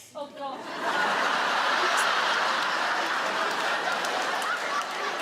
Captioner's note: audience laugh